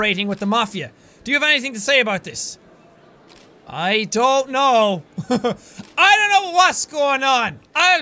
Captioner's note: chuckles